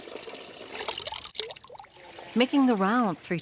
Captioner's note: water running